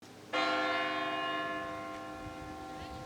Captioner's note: bell rings